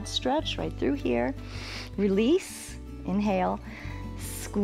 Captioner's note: inhales